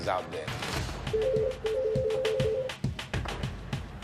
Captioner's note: telephone rings